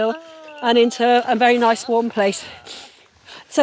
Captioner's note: groaning